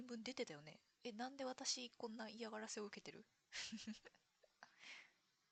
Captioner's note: laughs